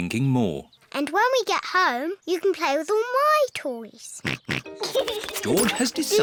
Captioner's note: snorts and giggles